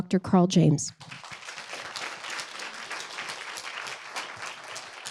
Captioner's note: audience applauding